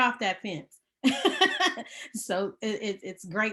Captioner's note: laughing